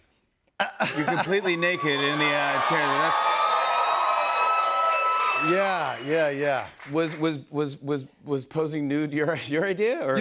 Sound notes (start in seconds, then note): 3.6 cheers and applause